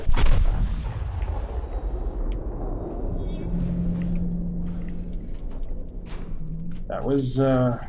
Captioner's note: boom